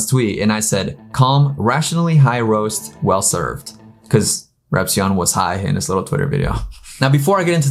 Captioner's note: laughs